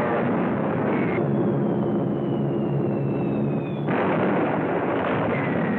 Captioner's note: explosions